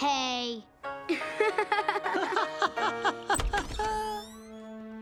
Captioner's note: laughing